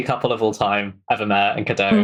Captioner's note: laughs